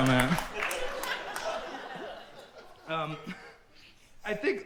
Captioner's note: audience continues laughing